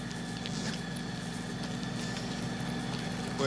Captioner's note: heater buzzing